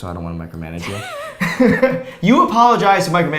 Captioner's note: both laughs